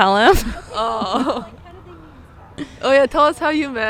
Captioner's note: both laughing